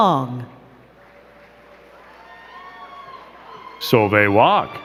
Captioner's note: crowd clapping